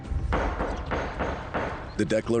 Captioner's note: gavel banging